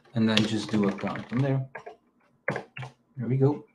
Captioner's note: keyboard clacking